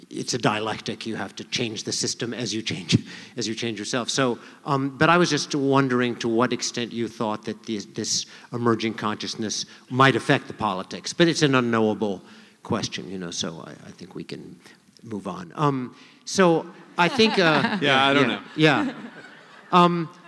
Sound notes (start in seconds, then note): 16.9 laughter